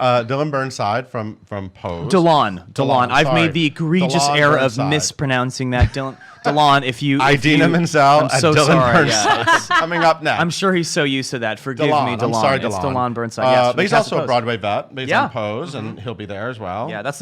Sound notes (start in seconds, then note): 5.8 laughs; 8.7 laughs